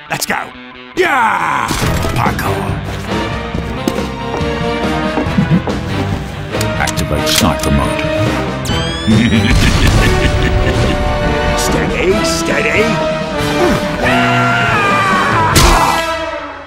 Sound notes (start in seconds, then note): 9.0 evil laughter; 14.0 screams